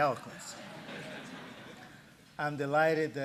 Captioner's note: laughter